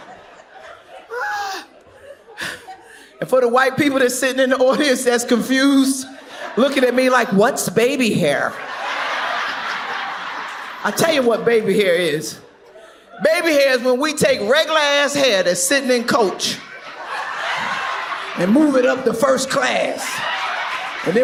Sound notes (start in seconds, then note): 8.2 audience laughs